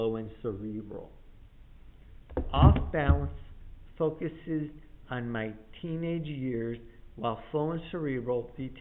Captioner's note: thump of books hitting table